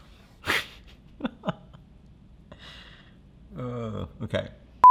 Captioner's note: chuckling